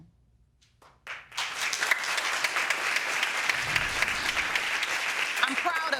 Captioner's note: applauding